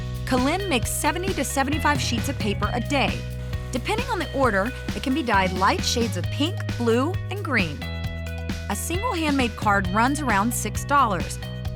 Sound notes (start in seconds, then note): none